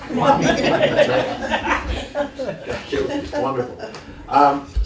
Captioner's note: laughter